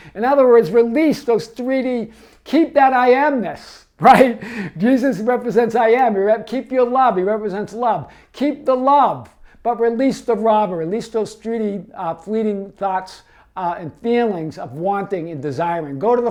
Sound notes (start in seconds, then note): 4.0 laughs